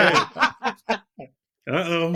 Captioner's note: laughter